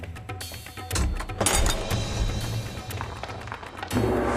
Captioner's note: metal clanks